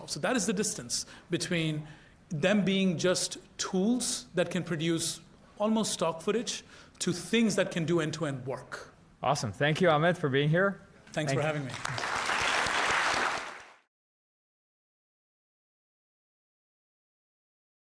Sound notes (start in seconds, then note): 11.3 applause